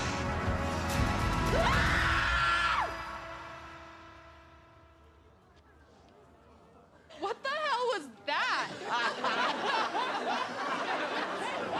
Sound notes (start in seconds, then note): 1.5 screams; 8.6 laughter